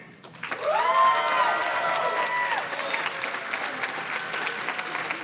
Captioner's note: audience cheers and claps